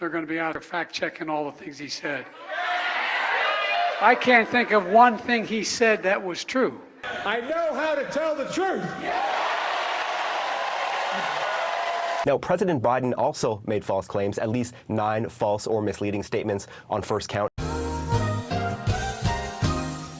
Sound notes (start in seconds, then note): 2.4 audience cheers; 8.9 audience cheers